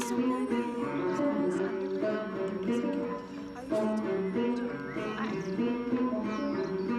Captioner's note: reflective music; woman speaking softly